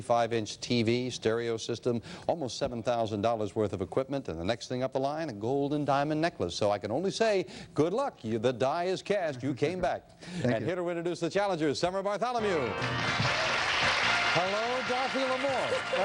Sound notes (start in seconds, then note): 12.4 theme music playing; 12.4 applause; 14.1 laughing